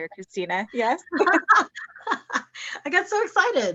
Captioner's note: laughter